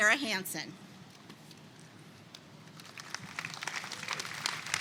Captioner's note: attendees clapping